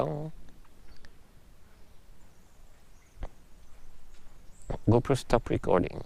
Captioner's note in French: Long silence